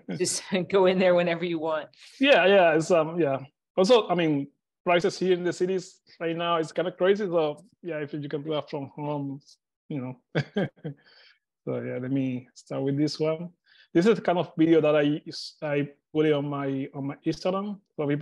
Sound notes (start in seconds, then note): 10.3 chuckles